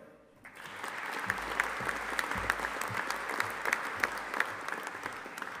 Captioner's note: audience applauding